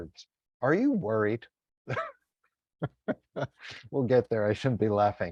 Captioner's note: laughs